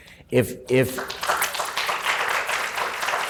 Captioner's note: applause